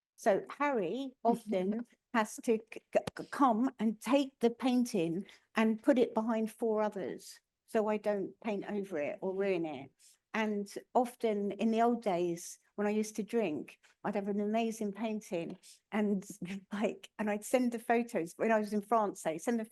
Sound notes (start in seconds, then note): 16.3 chuckling